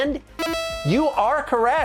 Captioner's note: electronic buzzer rings